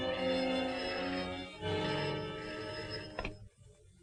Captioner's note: phone ringing